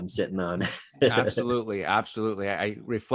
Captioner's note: chuckles